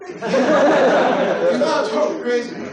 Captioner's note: laughter